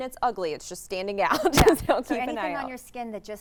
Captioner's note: laughing